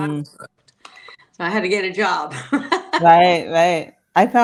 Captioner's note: laughs